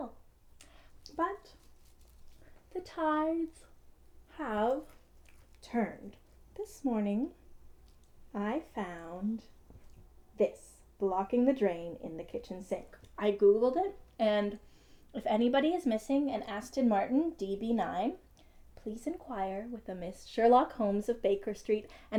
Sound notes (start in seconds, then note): none